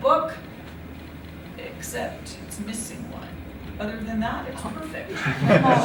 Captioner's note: laughter